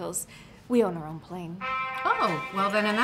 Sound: cell phone ringing

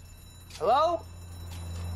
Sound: alarm bell ringing

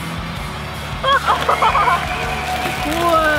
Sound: laughs; applause and cheers

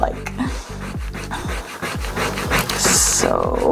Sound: eraser rubbing

